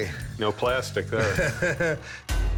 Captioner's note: laughs